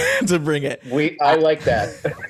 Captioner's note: both laughing